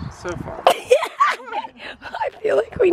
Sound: laughing

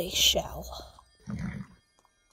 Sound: whinny

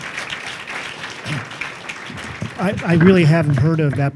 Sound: applause

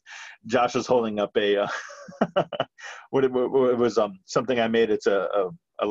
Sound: laughing

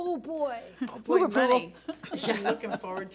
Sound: claps

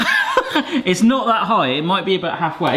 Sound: laughing

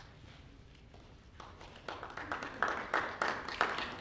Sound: audience applauding

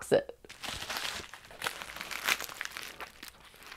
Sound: paper crinkling

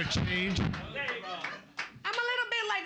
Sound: audience laughing and clapping

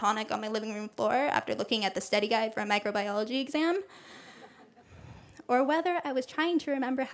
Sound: laughter

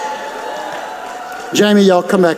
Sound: audience clapping

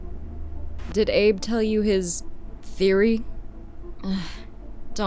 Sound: sigh

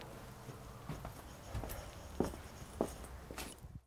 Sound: footsteps descending

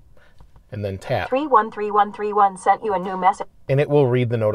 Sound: Siri speaking

